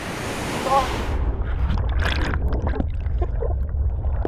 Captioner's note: flooding water